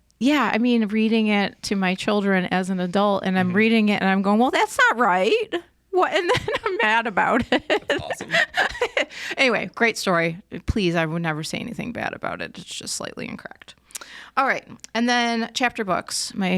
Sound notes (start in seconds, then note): 7.1 laughs